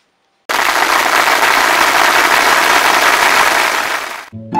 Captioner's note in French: Applaudissements